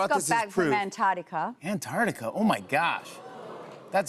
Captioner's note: audience oohs